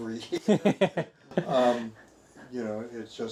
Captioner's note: both laughing